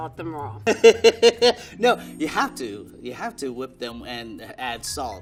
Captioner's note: laughing